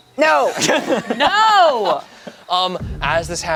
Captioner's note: everyone laughs